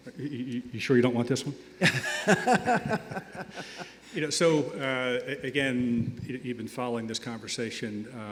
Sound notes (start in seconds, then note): 1.8 laughing